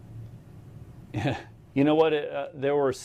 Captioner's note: laughs